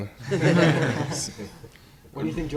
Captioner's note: laughing